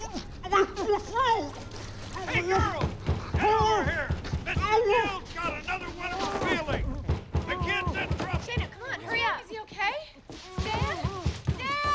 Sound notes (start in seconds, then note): 2.0 <i> gasping, gurgling</i>; 3.9 <i> pounding at door</i>